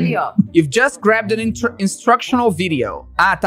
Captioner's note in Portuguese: em inglês